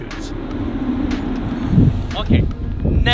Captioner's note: engine humming